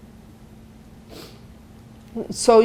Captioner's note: sniffling